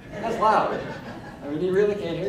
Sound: crowd laughing

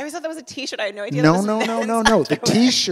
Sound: laughs

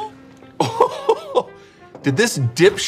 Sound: laughing

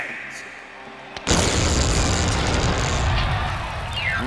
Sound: thundering

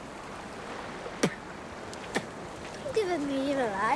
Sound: spits

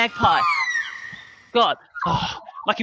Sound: bird shieking

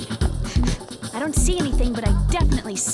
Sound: sniffing

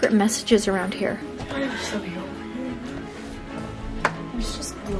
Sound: everyone muttering

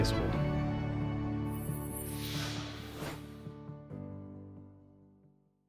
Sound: gentle music fades; logo whooshes

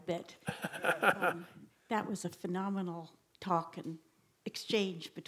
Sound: laugh

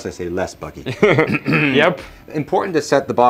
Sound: laughing

